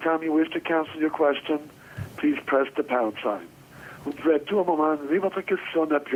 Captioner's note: speaking French